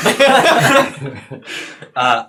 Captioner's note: all laugh